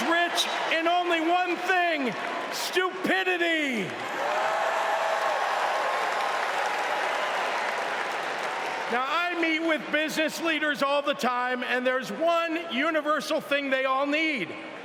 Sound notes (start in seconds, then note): 4.6 cheering